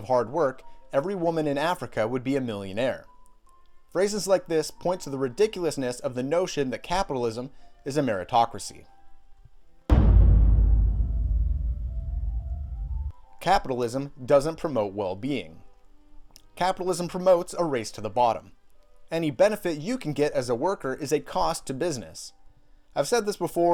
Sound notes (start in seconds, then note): 9.9 epic Boom Again